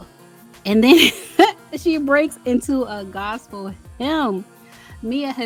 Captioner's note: laughs